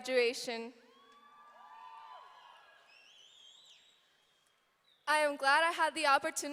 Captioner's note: audience cheering